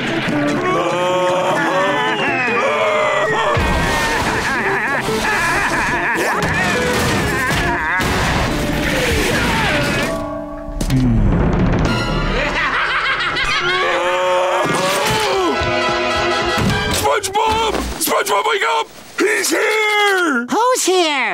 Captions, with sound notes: [screaming] [laughing] [laughing] [screaming] SpongeBob, SpongeBob wake up! -He's here! -Who's here?